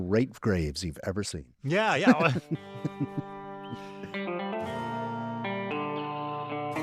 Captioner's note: laughter